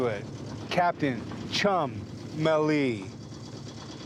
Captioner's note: none